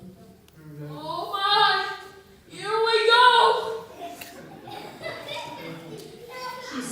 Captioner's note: laughter